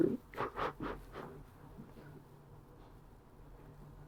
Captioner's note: crying